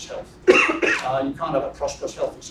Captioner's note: cough